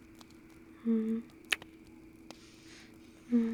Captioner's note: kiss